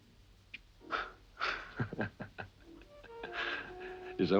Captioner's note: Christian laughing